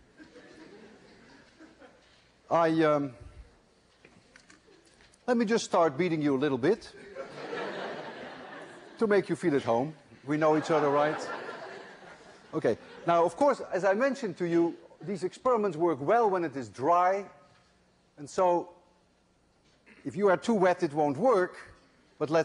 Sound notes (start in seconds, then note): 0.1 laughter